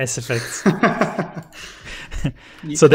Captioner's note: laughs